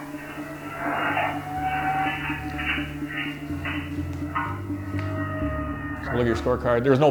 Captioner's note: alarm blares; dramatic music continues